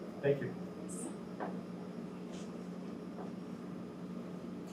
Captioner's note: air conditioner hums